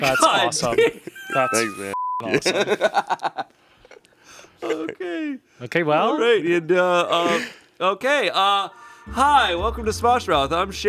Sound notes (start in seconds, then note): 1.9 beep; 2.3 laughs